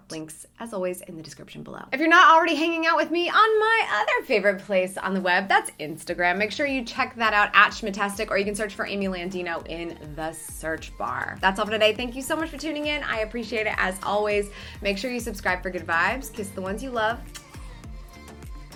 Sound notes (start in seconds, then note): 17.2 kisses